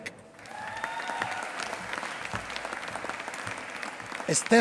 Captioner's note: applause